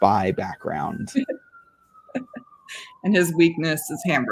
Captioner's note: laughing